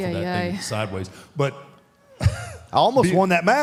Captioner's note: laughs